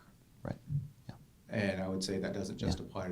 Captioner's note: voiceover